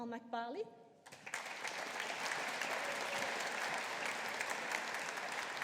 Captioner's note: audience applauding